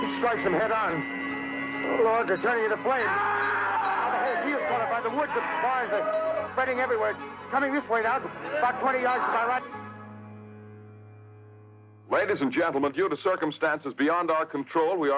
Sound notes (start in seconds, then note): 3.4 men screaming; 12.0 radio Announcer